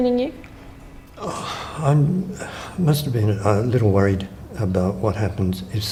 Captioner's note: sighs